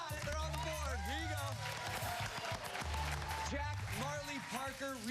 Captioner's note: cheers and applause